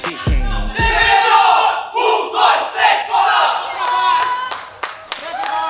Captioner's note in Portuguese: grito de guerra; aplausos